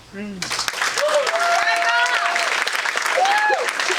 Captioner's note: audience applauding